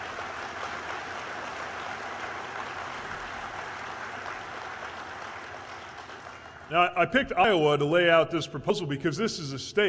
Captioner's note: applause